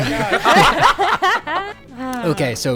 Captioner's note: everyone laughing